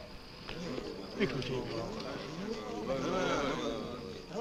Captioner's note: group chattering